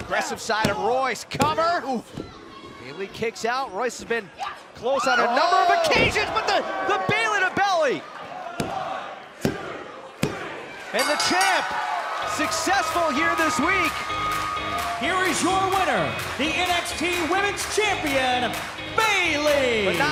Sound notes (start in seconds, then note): 10.9 bell ringing